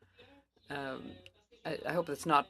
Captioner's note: speaking French